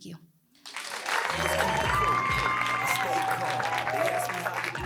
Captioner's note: audience clapping